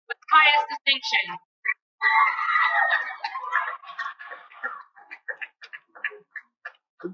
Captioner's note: cheering